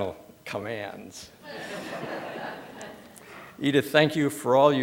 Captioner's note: laughter